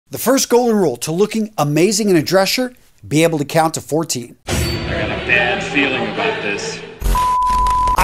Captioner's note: sound effect